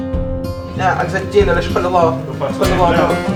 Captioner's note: speaking Irish Gaelic